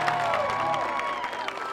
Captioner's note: crowd clapping and cheering